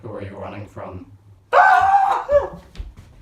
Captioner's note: screams